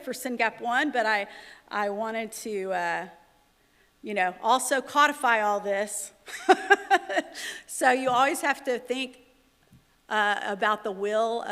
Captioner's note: laughter